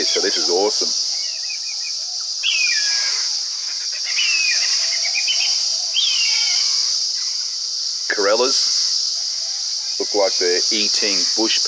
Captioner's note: bird